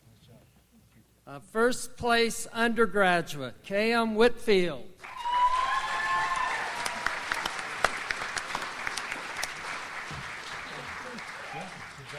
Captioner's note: audience applauds